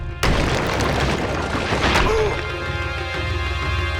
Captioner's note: groaning